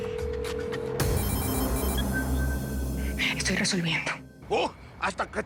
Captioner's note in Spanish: Suena el celular